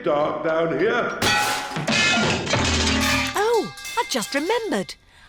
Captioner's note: clanging and crashing